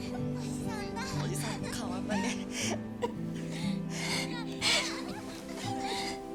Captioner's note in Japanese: 笑い; 息をのむ音